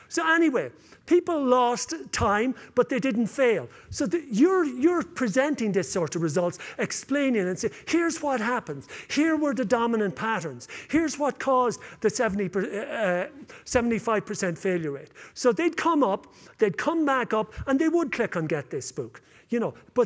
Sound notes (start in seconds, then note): none